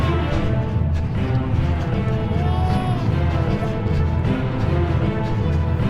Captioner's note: rapid breathing of a runner